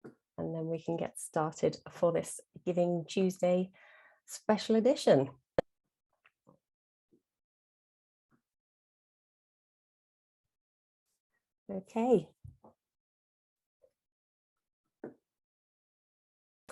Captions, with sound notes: and then we can get started for this Giving Tuesday special edition [pause] okay